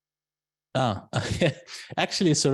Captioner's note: laughs